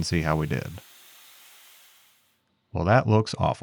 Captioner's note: machinery whirring